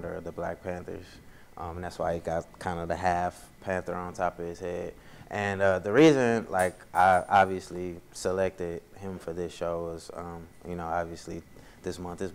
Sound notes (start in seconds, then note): none